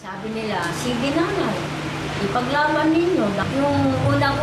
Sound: speaking foreign language

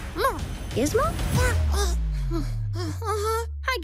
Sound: grumbles, sighs

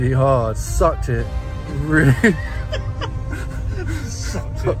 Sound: both laughing

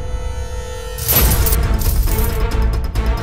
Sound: coins clinking

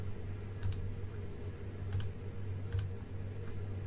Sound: clicking

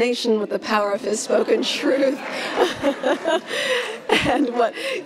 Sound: laughs

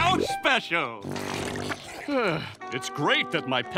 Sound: sighing

